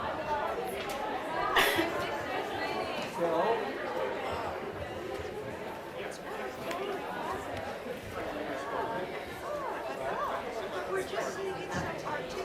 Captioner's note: audience chattering